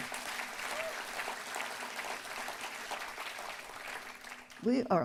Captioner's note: applause